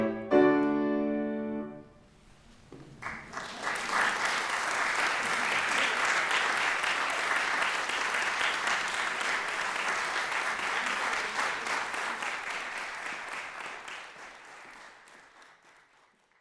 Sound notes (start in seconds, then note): 0.0 bright, upbeat piano music; 2.9 applause